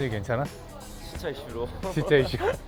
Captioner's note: laughs